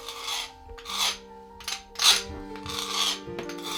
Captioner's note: scraping